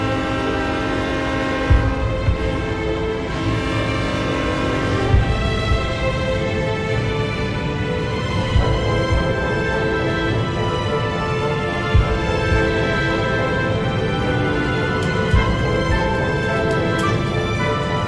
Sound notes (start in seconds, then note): 1.1 train chugging; 5.9 instrumental music